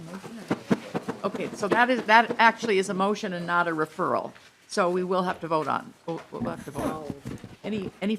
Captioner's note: gavel